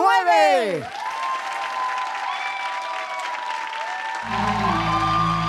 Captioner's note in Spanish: Ovación; Música pop